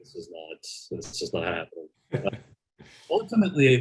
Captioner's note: laughs